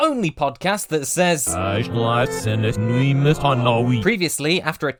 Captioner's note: unsettling backmasked message